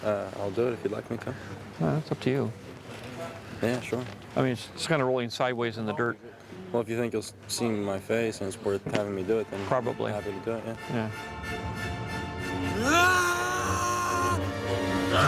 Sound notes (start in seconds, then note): 12.7 shouts